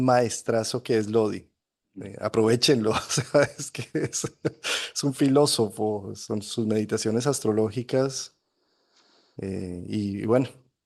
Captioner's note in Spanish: risas